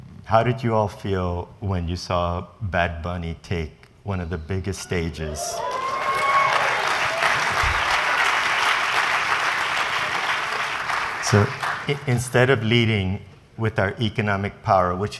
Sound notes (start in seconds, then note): 5.4 applause and cheering